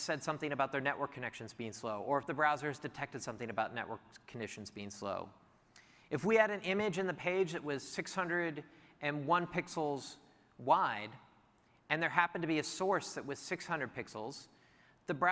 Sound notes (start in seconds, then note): none